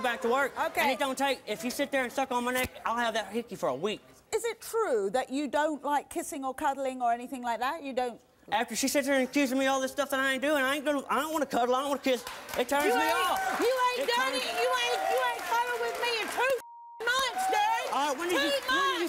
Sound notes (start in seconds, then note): 12.1 audience applause; 16.6 beeping